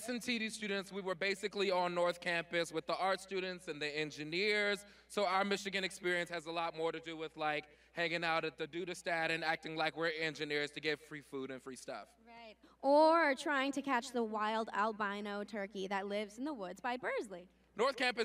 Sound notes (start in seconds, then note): none